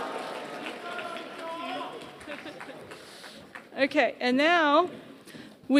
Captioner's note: applause